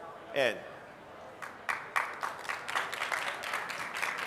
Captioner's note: applause